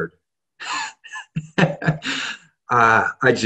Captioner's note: laughs